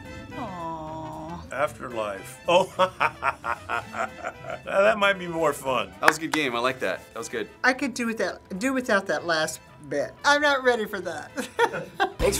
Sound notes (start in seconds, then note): 2.4 laughing; 11.3 laughing